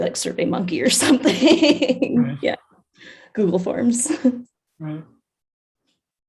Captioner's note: chuckles